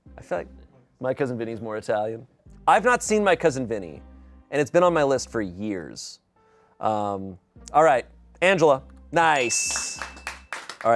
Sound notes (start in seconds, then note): 9.3 bell dings; 9.4 audience applauding